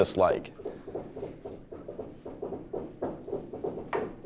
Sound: tools banging

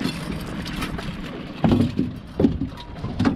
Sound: fish splashing; clanking; fish thrashing

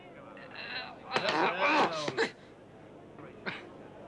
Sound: man grunts

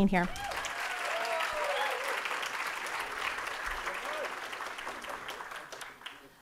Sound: audience applauding and cheering

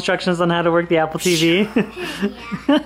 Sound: laughs

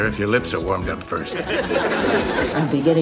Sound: audience laughter

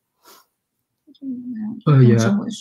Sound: speaks mandarin

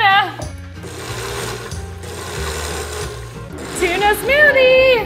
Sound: blender pulsing

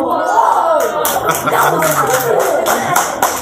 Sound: gasps and applause

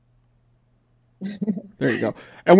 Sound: laughs

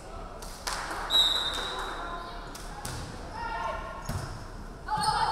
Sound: referee whistling

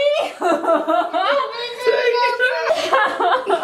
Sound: laughter

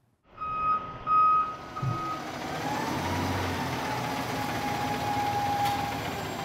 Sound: trucks beeping; machines whirring

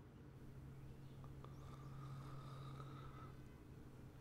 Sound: snores

